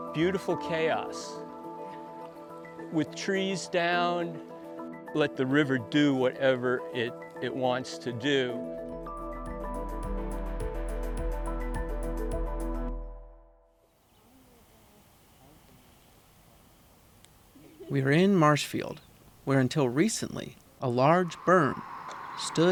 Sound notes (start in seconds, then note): 8.8 gentle pensive music continues; 14.7 people chattering indistinctly